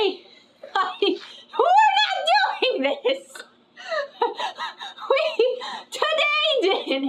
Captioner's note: laughs